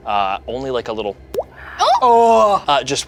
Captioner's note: water drops